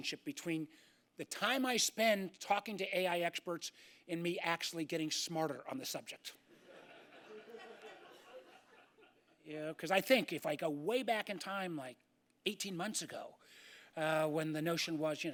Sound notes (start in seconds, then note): 9.5 laughter